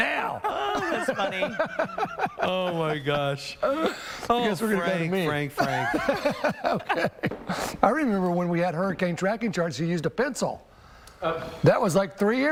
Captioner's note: laughter